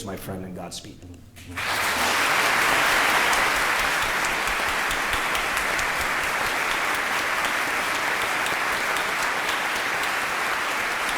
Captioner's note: laughter; applause